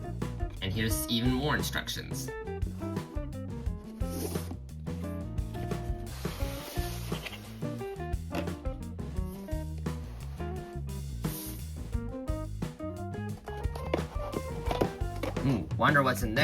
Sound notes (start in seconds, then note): 5.0 unboxing sounds